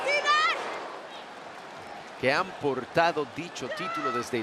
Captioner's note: applause